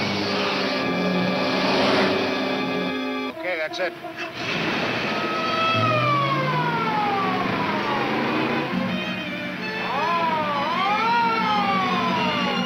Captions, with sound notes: - Okay, that's it. (siren wailing)